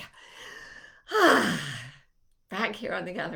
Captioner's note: sighing